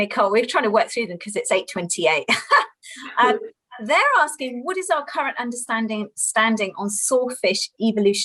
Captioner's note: laughter